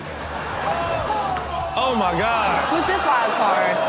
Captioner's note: crowd laughs; background chatter